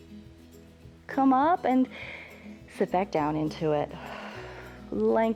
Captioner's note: exhales